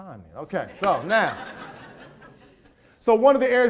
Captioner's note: audience laughs